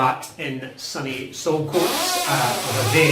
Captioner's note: loud creaking